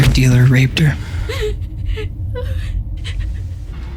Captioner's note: girl whimpering, crying